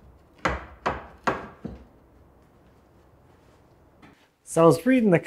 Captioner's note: wood banging